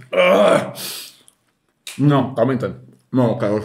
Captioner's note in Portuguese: risos